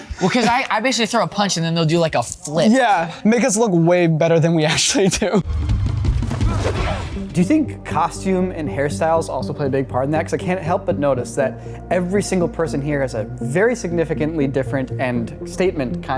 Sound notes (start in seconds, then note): 5.7 intense music; 6.3 fighters grunt